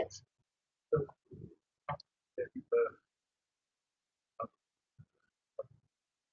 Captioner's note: man speaks through warped and choppy audio